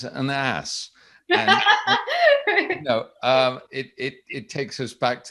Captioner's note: guffaws